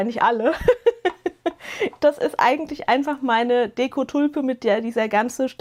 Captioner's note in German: gelächter